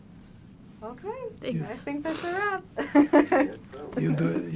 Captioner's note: laughing